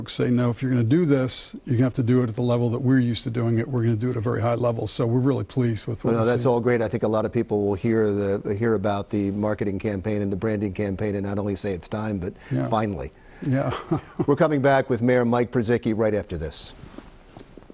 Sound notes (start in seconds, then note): 13.5 laughs